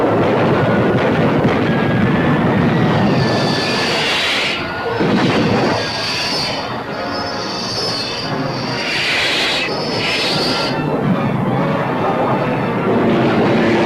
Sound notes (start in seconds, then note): 0.1 weapons firing; 2.7 missile whooshing; 4.6 explosion booming; 8.3 missiles whooshing